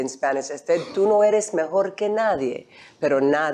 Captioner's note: speaking spanish